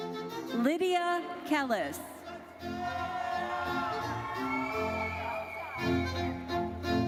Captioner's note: audience cheers